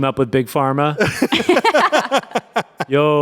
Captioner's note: everyone laughs